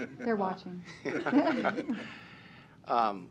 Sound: laughter

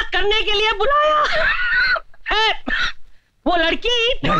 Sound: cough

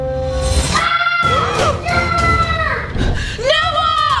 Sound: shouting

